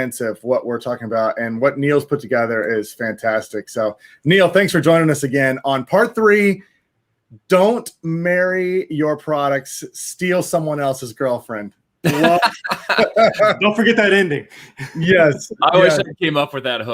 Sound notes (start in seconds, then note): 12.0 laughing